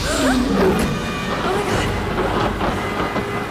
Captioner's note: Gasping